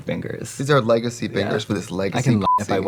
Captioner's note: beeping